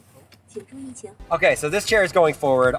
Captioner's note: car speaking in Chinese